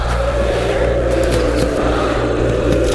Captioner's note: distorted screaming